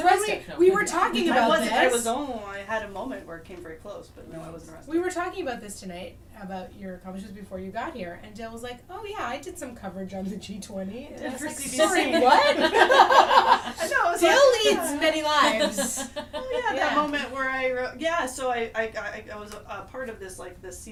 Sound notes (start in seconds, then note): 11.8 laughs